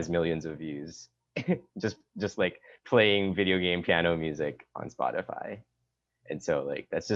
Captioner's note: laugh